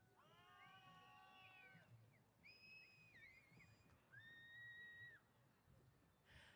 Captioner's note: cheers